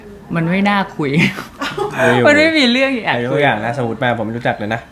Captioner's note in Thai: เสียงหัวเราะ